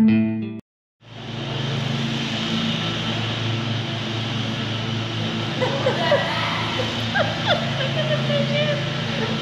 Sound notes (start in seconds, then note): 5.6 laughing